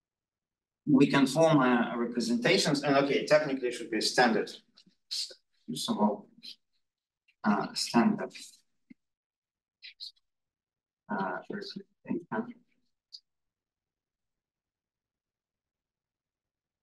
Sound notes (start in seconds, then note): 11.1 audio distorting